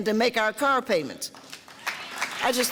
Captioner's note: audience applause